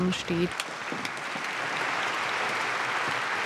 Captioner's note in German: Applaus